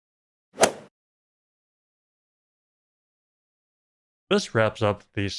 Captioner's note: golf ball hit sound